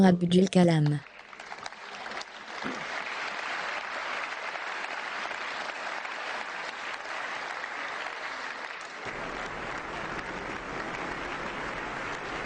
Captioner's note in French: L'assistance applaudit